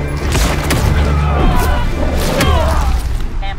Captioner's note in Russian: Массовый крик